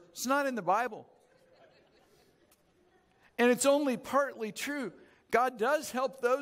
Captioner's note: audience chuckles